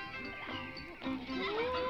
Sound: toys whooping

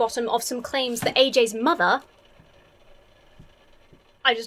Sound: something wooden clunks

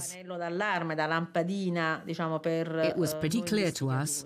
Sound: speaking in Italian

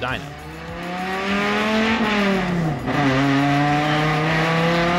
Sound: car engine revving

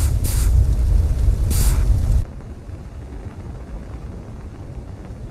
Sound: satellite whirling

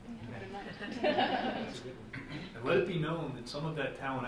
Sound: group laughing

